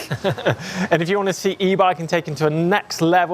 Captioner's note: laughs